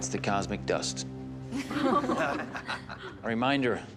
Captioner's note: chuckle